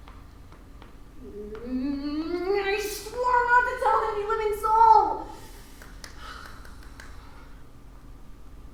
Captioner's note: sigh